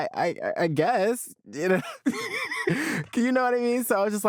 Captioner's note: laughs